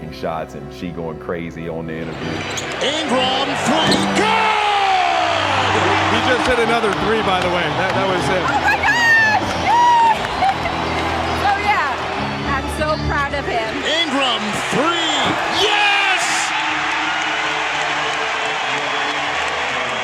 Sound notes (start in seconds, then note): 9.8 laughing; 16.5 crowd cheering